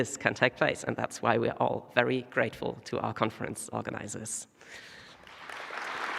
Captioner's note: applause